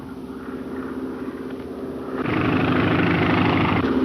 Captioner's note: engines droning